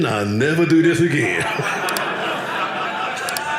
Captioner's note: audience laughing